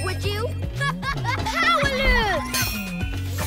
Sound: laughing

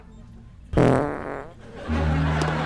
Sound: farting

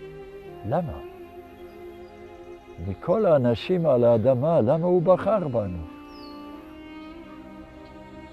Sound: speaking in Hebrew; speaking in Hebrew

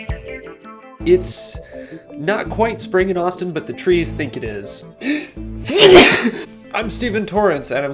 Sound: sneeze

